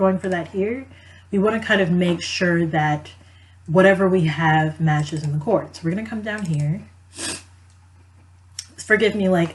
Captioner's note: sniff